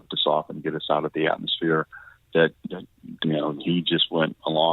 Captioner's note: warbled audio